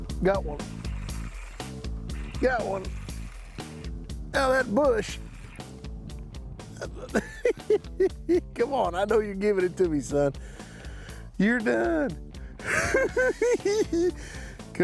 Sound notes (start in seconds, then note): 6.7 chuckling